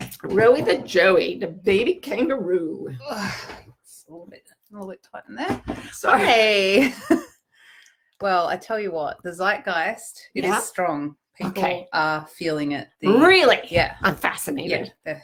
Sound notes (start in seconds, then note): 3.4 grunting; 6.2 laughing